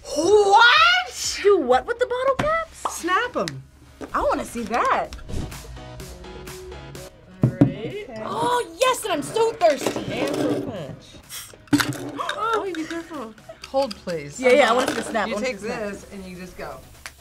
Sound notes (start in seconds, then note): 5.4 upbeat music; 12.2 gasps; 13.4 laughs